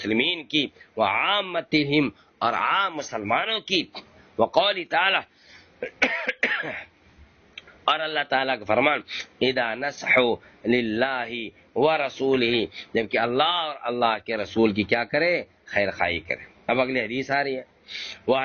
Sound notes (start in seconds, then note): 5.8 coughs; 5.8 clears throat